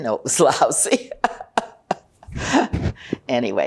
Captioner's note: laughing